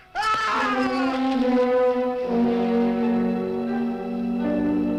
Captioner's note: screaming